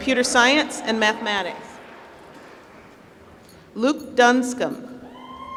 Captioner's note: applause